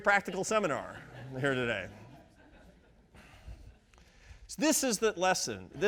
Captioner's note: audience laughs